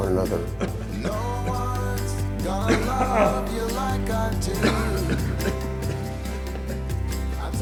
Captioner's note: Florio coughs